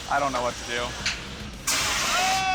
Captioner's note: pressure steam